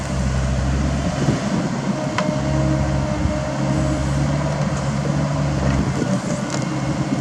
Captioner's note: metal roar